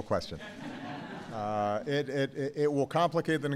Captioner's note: laughter